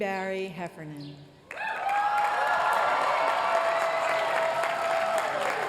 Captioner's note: applause